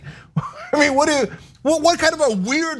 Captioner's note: laugh